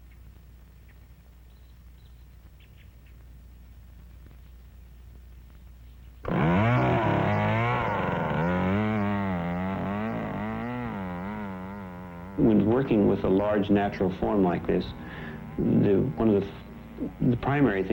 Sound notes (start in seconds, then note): 6.0 saw buzzing